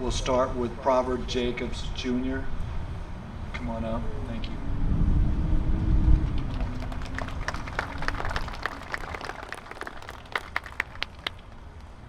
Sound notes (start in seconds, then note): 6.1 applause